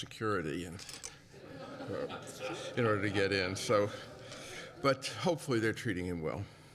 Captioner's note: laughter